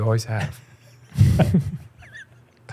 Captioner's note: chuckles